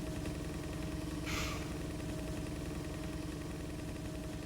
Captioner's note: ventilator humming